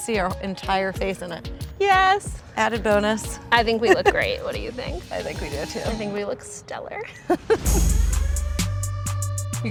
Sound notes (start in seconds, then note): 3.8 laughs; 7.2 laughs; 7.4 percussive music